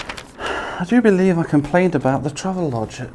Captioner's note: sighs